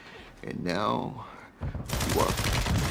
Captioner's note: guns firing on video game